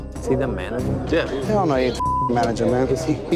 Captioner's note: beep